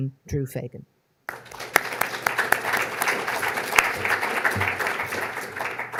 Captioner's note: audience applauding